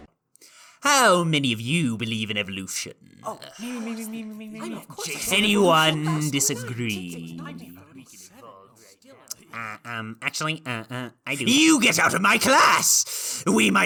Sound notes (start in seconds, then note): 3.7 chorus of I do's